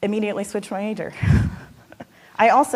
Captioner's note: laughing